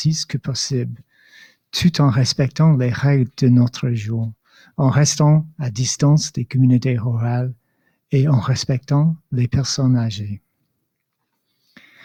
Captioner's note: speaking in French